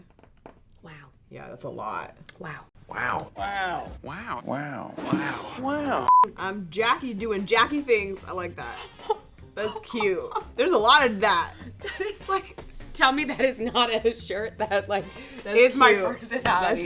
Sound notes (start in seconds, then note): 6.0 beep; 9.6 laughs